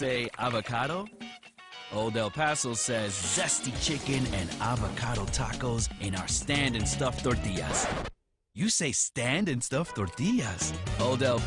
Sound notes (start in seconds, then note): 4.5 record scratch